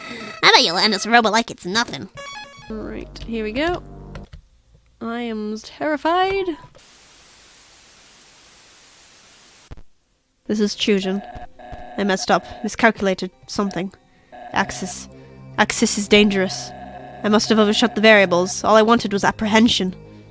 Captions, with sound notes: "I bet you'll handle Ceroba like it's nothing!" Right... here we go! I am terrified... [Static] "This is Chujin." "I messed up, miscalculated, something." "Axis... Axis is dangerous." "I must have overshot the variables, all I wanted was apprehension."